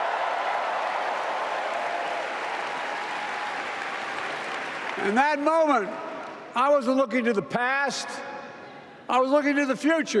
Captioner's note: applause